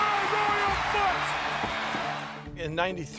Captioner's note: cheering